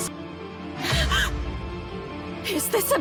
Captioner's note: gasp